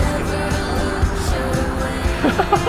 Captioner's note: laughs